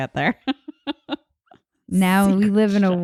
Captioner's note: laughing